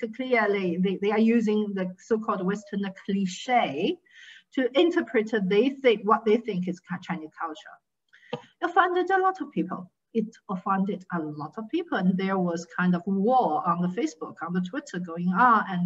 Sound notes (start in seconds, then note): 6.7 faintly speaking